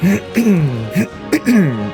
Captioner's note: clears throat